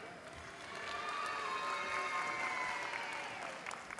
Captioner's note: applause